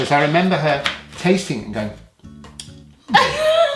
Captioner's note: smacking noise